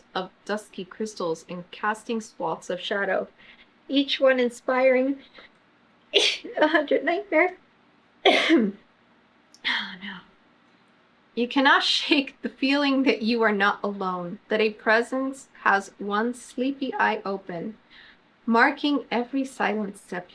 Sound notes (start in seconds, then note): 6.1 sneezes; 8.2 coughs